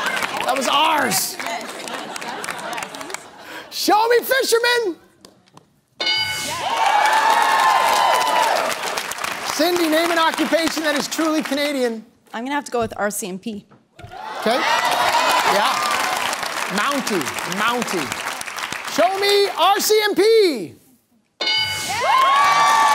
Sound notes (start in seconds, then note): 6.0 bell dings; 6.8 applause; 14.4 applause; 21.4 bell dings; 22.1 applause